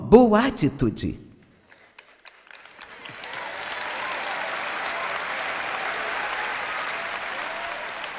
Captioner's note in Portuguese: audiência aplaude